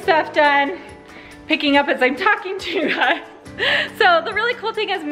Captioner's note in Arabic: يضحك